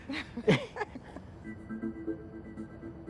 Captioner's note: both laugh